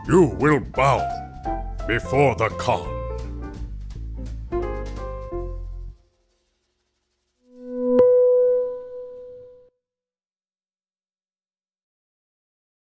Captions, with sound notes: You will bow before the Kah. (lively jazz music) (electronic tones playing)